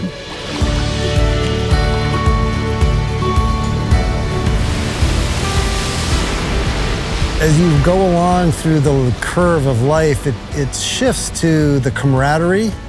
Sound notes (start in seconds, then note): 4.7 waves crashing on shore